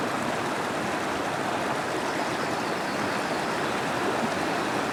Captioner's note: birds singing